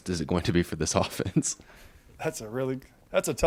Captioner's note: interviewer laughs